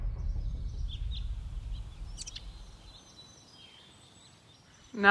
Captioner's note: birds chirping